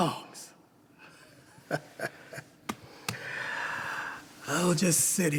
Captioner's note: chuckles